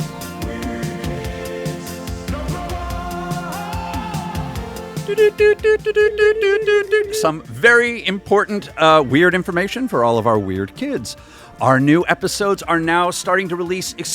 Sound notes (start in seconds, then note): 5.0 morse Code noises